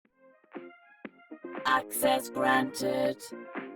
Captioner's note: robot Voice